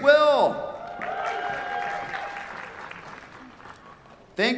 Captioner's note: cheers, applause